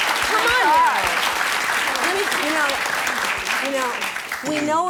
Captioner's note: audience applause